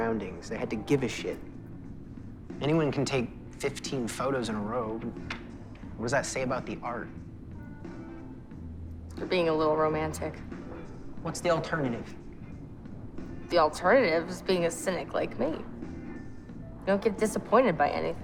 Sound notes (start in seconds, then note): none